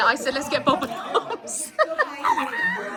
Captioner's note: laughs